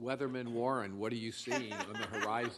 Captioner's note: laughter